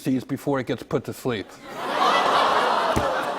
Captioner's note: audience groans